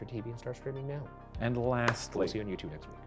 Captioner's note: palms clapping